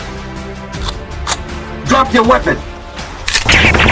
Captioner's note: gun cocks